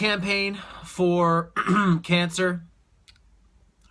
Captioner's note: clears throat